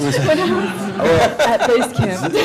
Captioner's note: laughter